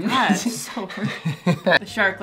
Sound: laughter

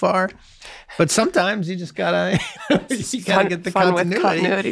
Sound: chuckles

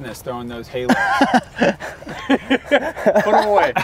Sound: laughs

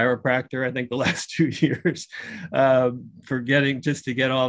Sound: laughs

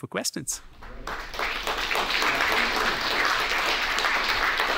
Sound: audience applauds

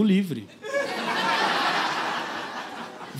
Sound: laughter

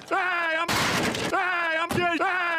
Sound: crashes

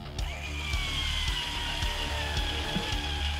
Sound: drilling

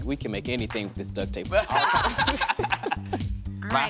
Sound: laughter

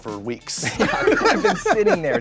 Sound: all laughing

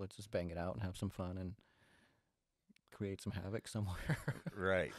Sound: chuckles

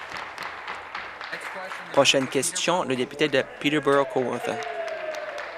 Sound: applause

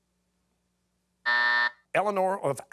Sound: buzzer

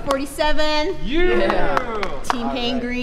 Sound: cheering

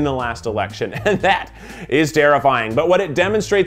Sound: laughs

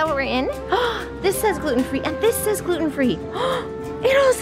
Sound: gasps

